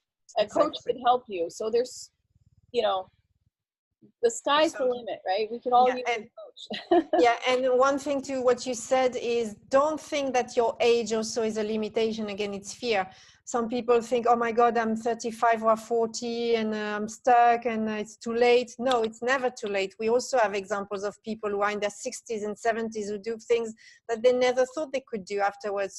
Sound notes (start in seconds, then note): 6.6 laughs